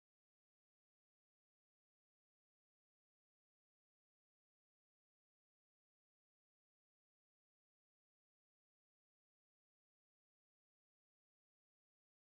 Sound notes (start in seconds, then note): none